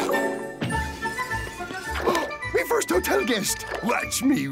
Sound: gasping

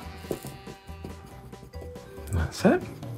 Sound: pen scratching

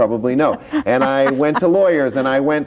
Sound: laughs

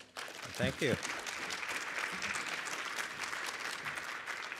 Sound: audience applauds

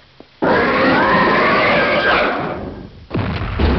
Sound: roar

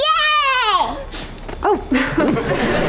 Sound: chuckles

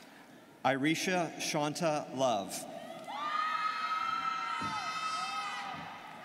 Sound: students cheering

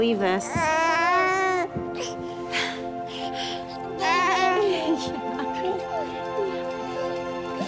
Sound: baby cooing happily

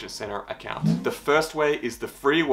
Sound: air whooshing

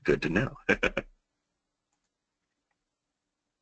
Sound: laughs

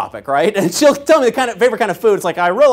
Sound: laugh

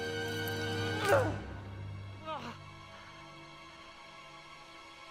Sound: grunting

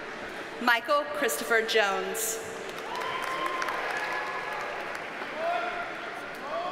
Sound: audience cheers and applauds

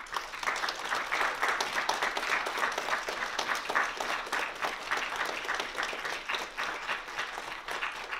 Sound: applause

